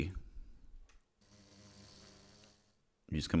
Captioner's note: Bee buzzes in response